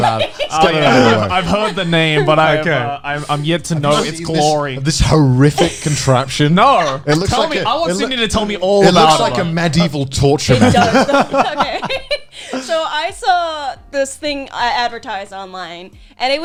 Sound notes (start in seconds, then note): 0.0 laughing; 10.4 laughing